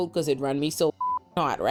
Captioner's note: beep